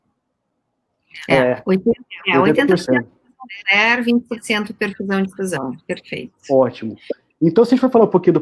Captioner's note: multiple voices